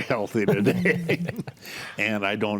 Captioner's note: group laughs